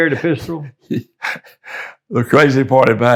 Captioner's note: laughing